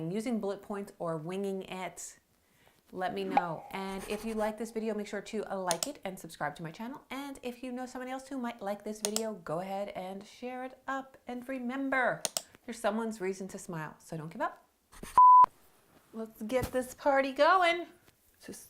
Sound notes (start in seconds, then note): 15.2 beeping